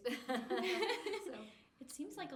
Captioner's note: laughing